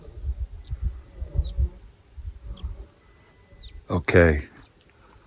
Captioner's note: birds chirping